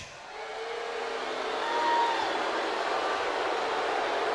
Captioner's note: crowd boos